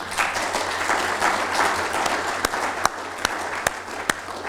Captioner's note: applause